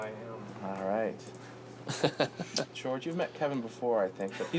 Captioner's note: chuckles